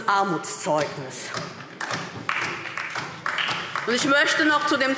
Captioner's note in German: Beifall DIE LINKE und vereinzelt SPD